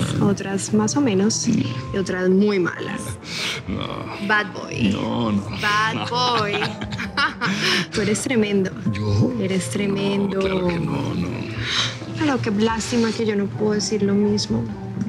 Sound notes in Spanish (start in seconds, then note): 5.9 Risas